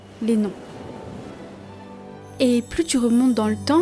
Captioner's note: sound of waves